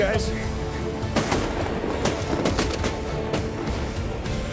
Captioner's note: gun shots